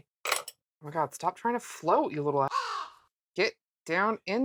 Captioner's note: caw